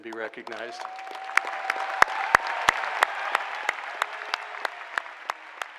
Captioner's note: applause